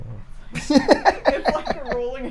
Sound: laughs

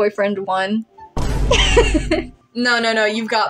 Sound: Vine Boom; laugh

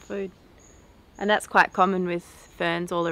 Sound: insects chirp

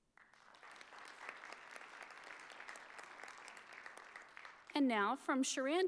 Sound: audience applauding

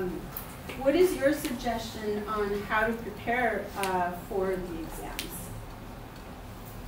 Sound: none

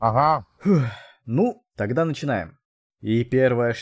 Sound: exhale

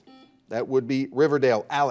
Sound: buzzer dings

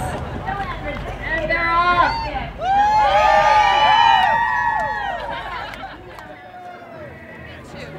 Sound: cheers

